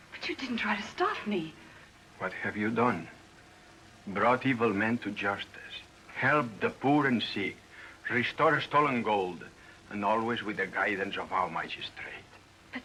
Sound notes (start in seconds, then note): none